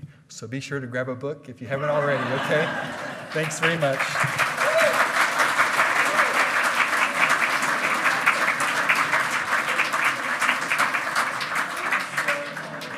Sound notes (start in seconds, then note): 1.9 hearty laughing; 5.1 loud clapping